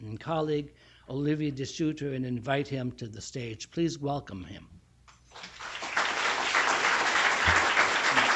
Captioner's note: applause